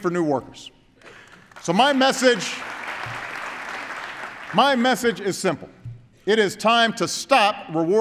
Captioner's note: applause